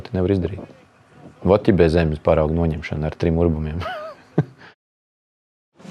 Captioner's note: laughs